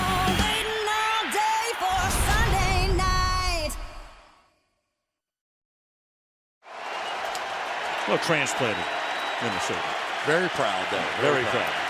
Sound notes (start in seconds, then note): 0.0 upbeat music; 6.6 cheering